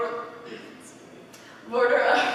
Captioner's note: cough